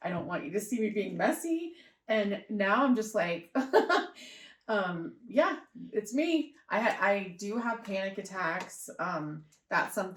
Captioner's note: laughter